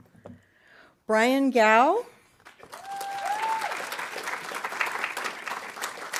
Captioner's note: audience applauding